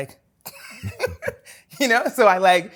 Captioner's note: laughs